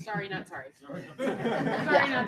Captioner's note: laughter